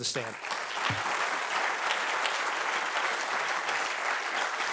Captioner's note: audience applauding